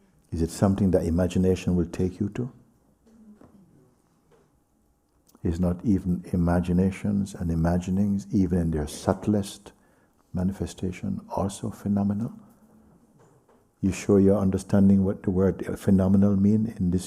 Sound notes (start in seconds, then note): none